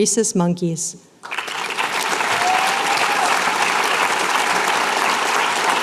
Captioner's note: applause